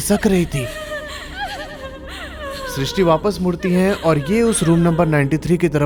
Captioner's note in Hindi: रोने की आवाज़